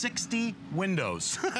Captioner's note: laughter